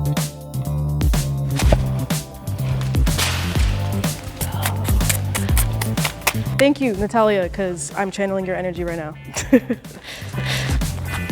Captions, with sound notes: (money whooshing) - Thank you Natalia, cause I'm channeling your energy right now.